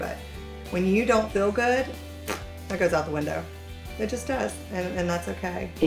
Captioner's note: blows raspberry